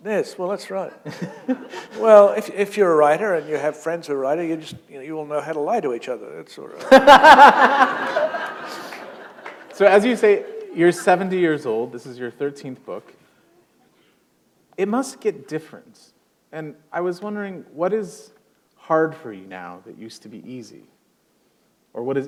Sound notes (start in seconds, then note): 1.0 chuckle; 6.8 laughter